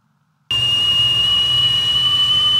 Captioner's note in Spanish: silbido